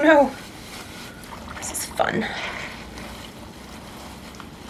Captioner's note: water gurgles